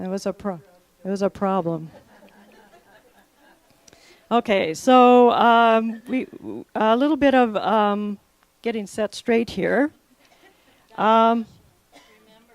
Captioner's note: laughter